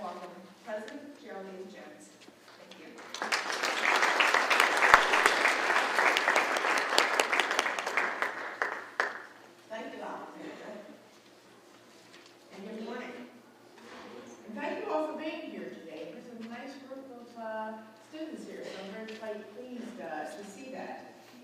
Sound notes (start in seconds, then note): 2.9 applause